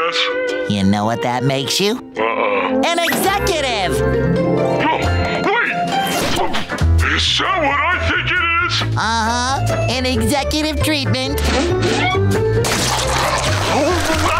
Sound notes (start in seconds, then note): 4.5 yelling; 12.6 scarfing